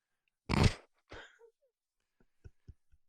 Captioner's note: laughs